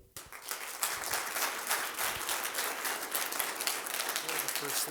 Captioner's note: applause